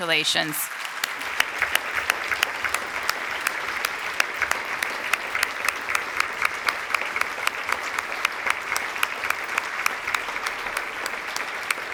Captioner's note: applause